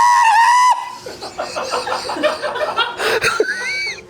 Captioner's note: laughs